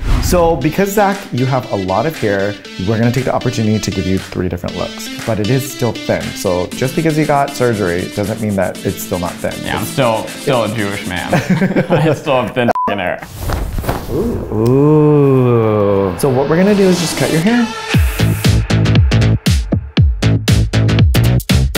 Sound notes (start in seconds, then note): 11.2 both laughing; 12.7 beeb; 17.9 upbeat music